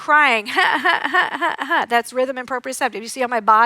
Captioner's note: imitates crying